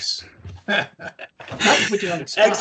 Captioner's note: laughing